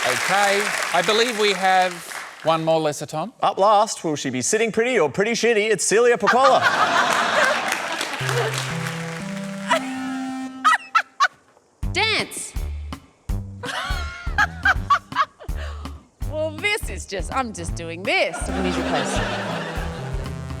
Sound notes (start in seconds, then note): 6.2 laughter; 6.2 laughs; 8.1 ascending keyboard notes play; 10.6 laughs; 13.6 laughs; 18.4 descending keyboard notes play